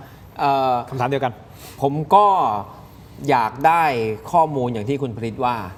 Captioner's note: takes a deep breath